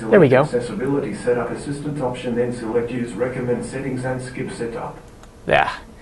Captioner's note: voice playback